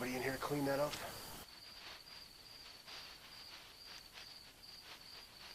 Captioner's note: rustling